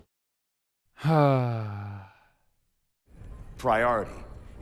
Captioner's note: sigh